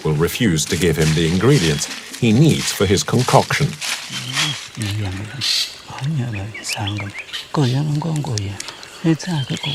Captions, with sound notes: will refuse to give him the ingredients he needs for his concoction. [foreign language]